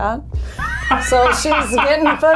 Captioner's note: Ryan laughs